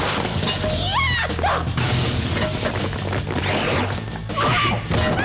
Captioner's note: screaming and grunting